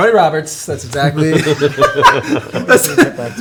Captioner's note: laugh